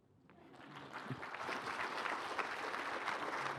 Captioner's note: applause